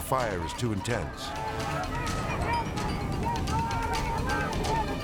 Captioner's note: rescuers shouting